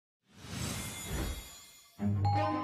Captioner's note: chimes ringing; wind whooshing; pleasant music